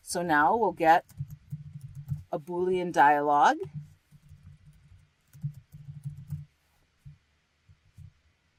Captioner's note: typing